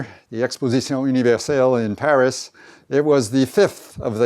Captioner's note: speaking foreign language